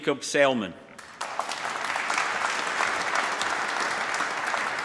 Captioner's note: applause